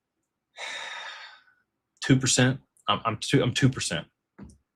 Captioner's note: sighs